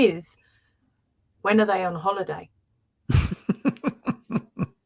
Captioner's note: laughter